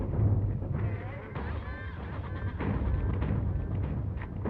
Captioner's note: laughter